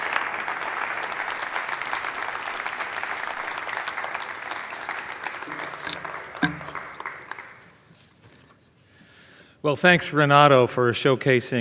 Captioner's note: applause